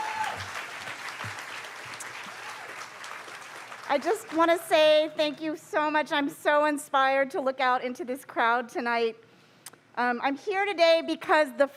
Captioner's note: cheers & applause